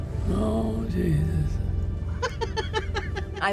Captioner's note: laughs